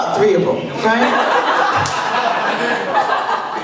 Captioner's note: laughter